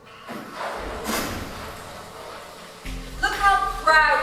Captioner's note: door slams